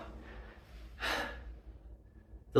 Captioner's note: gasps for air